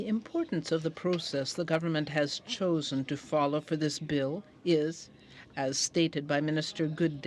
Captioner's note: speaking in french